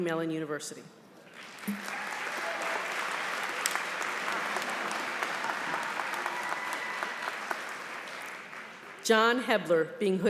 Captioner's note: applause